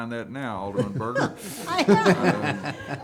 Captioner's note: all laughing